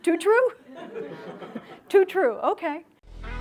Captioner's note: laughter